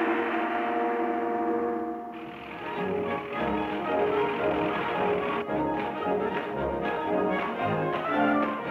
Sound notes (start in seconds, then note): 2.2 upbeat music; 5.6 boots pounding